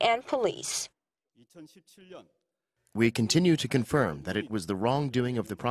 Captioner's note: Korean